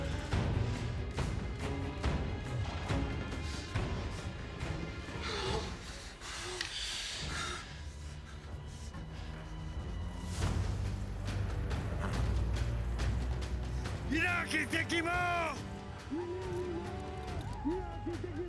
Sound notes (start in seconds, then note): 5.7 nervous panting; 13.8 yelling in paiute; 16.2 paiutes yell outside